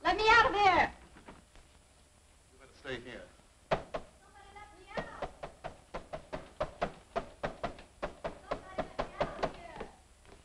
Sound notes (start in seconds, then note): 4.9 hand banging